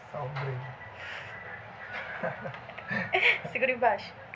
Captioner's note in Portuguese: risadas